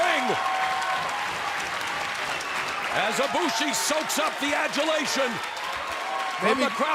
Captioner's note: applause